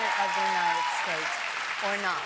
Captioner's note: cheers and Applause